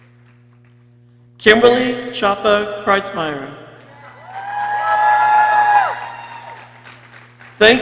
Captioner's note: people cheering